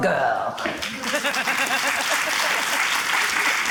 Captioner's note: applause